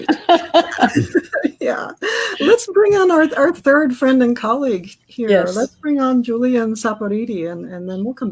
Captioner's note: laughter